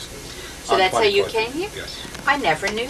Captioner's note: phone ringing